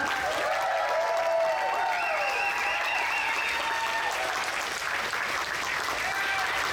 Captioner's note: audience cheers; audience applauds